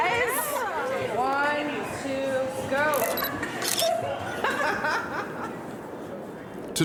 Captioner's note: camera snapping